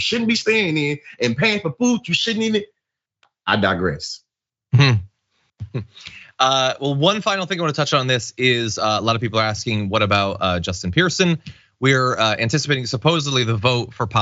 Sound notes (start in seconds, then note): 5.6 laugh